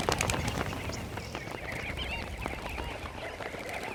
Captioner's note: birds calling